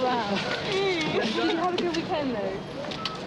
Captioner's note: Diana laughs